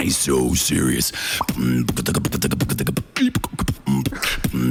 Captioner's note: beatboxing